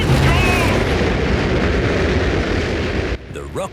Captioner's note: rockets blasting